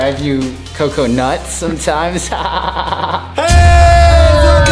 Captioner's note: laughs